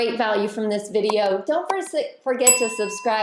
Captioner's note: bell dinging